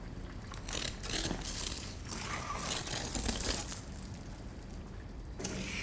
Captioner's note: scraping noises resume